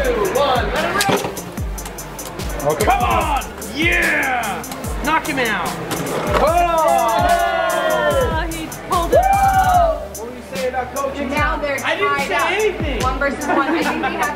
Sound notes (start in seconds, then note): 6.0 spectators cheering